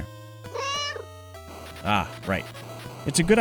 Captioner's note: meow